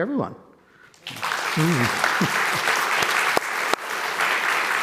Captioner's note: audience applauding